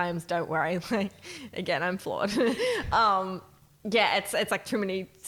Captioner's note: chuckles